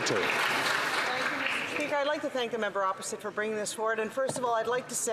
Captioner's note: some Applause